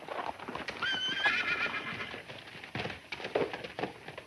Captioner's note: horse whinnies